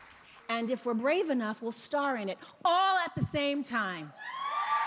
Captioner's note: applause